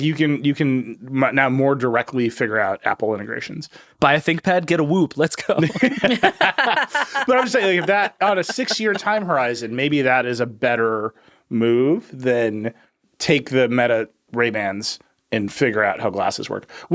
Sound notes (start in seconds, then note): 5.5 all laughing